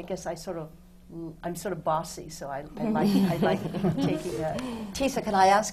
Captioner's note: laughter from the panel